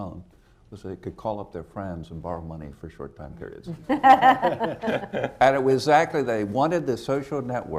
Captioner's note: laughter